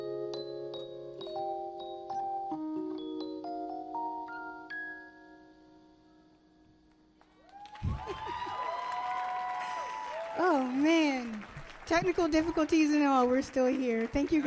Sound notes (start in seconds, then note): 3.5 music fades; 7.2 audience cheers and applauds